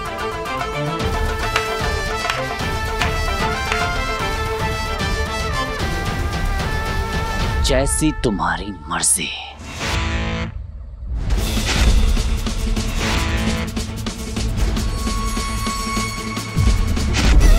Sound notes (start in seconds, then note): 1.4 claps; 9.7 tense music plays